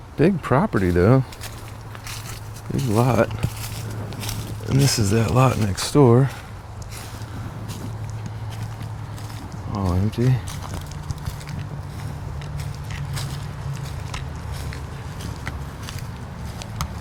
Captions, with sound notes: Big property though. There's a lot. And this is that lot next door. All empty. (leaves crunch)